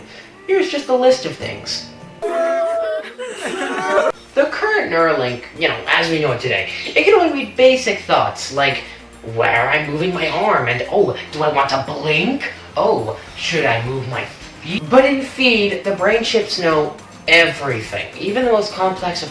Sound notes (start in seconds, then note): 2.2 crying